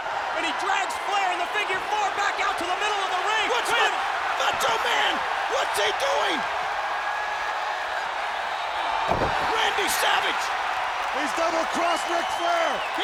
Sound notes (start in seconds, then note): 9.5 applause